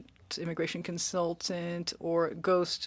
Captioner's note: speaking French